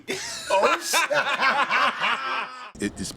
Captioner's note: laughter